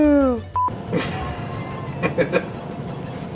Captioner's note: laughter